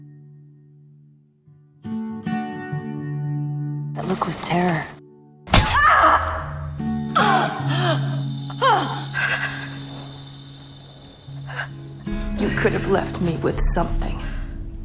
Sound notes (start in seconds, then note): 4.0 voiceover; 5.6 June cries out in pain; 12.7 voiceover